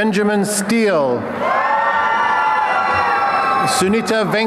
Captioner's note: applause and cheering